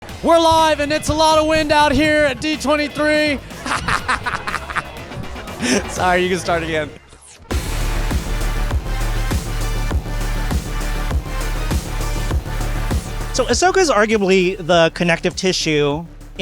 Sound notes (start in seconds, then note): 3.5 laughter; 7.6 upbeat music